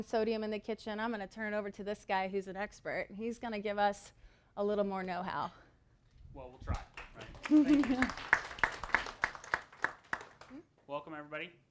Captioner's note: applause